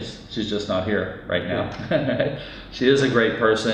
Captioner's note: laughs